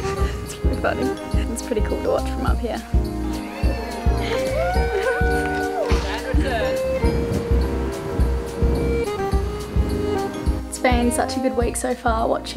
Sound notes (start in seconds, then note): 2.8 crowd cheering; 4.2 giggling; 7.3 chill lounge music